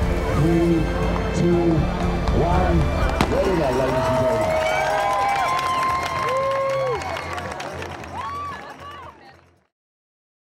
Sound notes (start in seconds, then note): 3.0 bang!; 4.5 crowd cheering, cow bells ringing, clapping